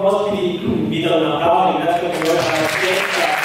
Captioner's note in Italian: Applauso